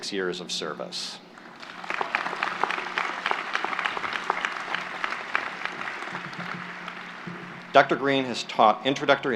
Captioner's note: applause